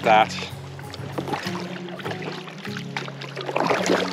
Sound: water splashing and music

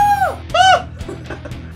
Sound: scream

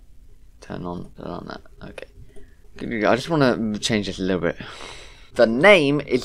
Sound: sighs

